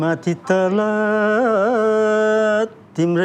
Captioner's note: none